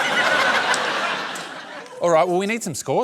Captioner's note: laughter